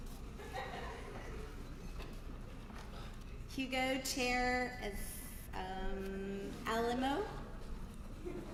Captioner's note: laugh